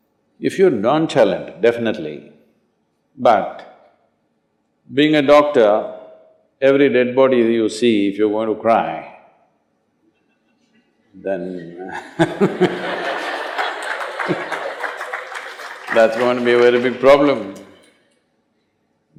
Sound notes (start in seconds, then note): 11.9 laughter/Applause